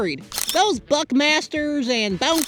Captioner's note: camera shutter clicks